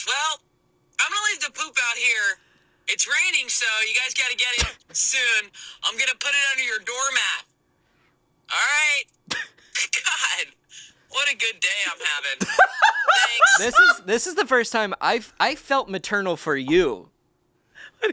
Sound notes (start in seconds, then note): 12.4 laughs